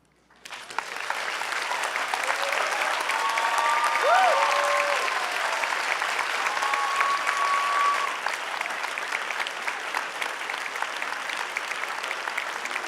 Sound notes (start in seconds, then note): 1.3 clapping; 3.7 cheering